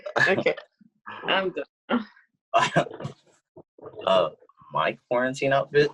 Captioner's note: giggles